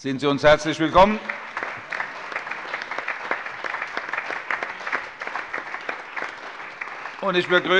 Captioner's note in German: Allgemeiner Beifall